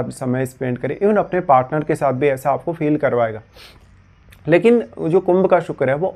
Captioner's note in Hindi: नाक से की जाने वाली आवाज़